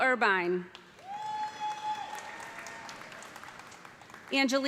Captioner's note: cheers and applause